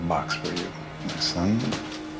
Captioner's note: suspenseful music; door opens